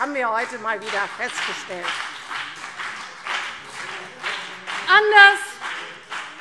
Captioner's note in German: Beifall